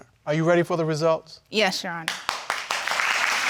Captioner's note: audience applauds